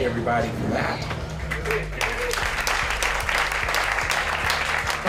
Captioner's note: people applauding